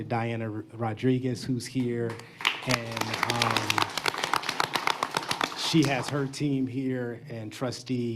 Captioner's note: applause